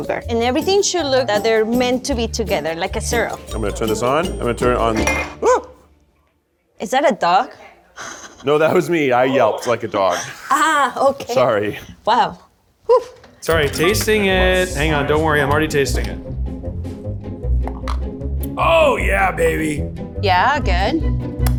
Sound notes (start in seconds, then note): 3.5 glass clinking; 5.0 yelping